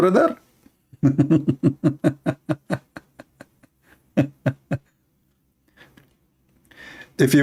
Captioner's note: Ketawa